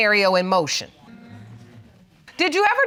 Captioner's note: audience murmuring